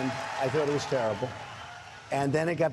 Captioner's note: cheering and applause